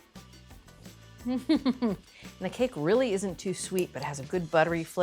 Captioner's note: laughs